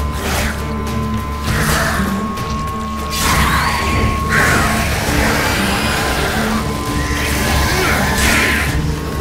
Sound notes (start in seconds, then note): 3.9 shriek; 4.5 flames crackle; 6.7 shriek; 7.9 grunt